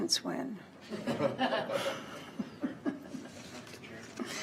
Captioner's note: laughs